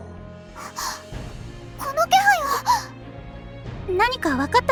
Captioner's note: gasp